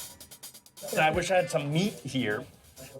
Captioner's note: laughing